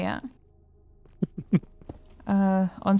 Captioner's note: laughter